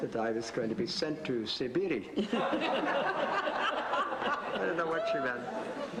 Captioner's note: audience laughs